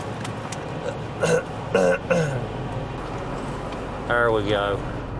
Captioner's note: clears throat